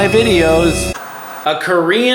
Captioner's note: TV static